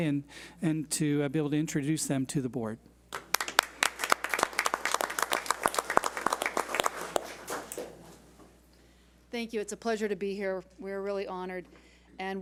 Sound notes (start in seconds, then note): 3.1 crowd applauds